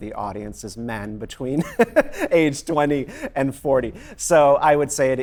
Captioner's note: laughs